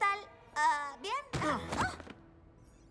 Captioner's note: crash